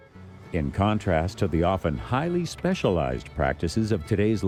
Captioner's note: voiceover